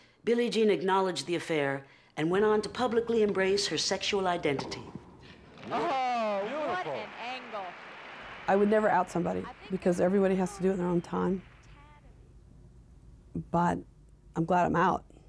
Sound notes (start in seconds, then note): 5.6 court noises